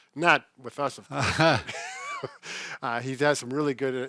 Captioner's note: laughing